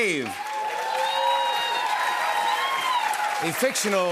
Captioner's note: cheers and applause